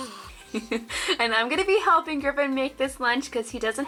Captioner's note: giggles